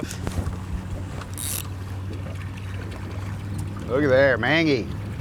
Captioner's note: reel clicking